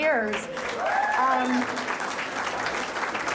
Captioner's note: crowd applauds